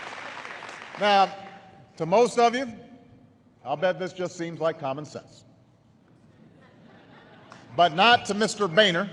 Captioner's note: laughter